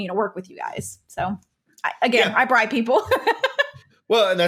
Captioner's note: laughs